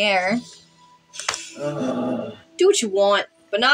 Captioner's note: Bingo Groans